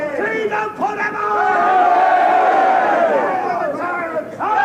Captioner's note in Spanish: Un hombre grita